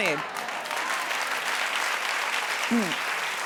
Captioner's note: audience claps